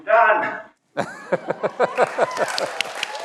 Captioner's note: everyone laughs; everyone applauds